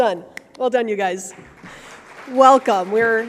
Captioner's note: audience applauding